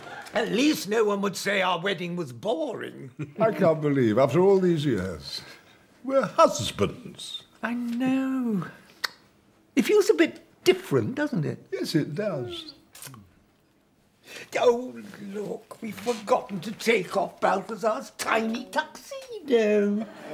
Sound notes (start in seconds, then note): 9.0 clicks tongue